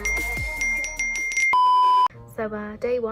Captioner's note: screen beeps